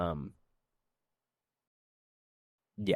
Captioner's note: silence